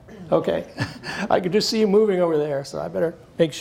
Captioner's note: laughs